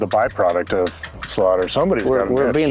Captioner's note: fence creaking